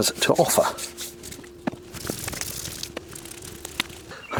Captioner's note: speeded-up slathering sounds